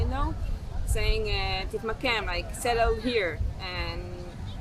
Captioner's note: hebrew